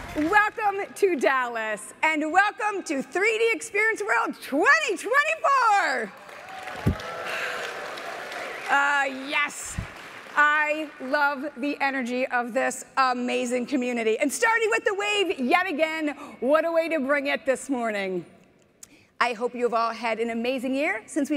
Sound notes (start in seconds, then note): 6.2 audience applauding; 6.2 audience cheering